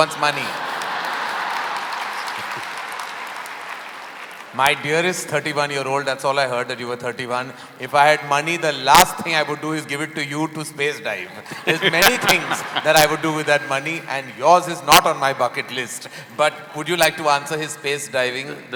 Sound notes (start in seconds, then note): 11.3 laughter